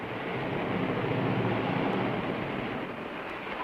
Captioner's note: car revving